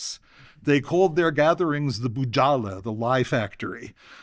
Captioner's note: non-english